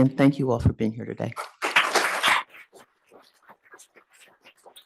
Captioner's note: attendees clapping